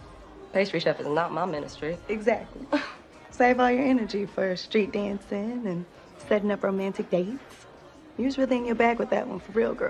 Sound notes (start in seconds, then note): 2.7 chuckles